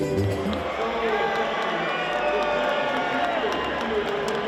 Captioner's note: crowd cheering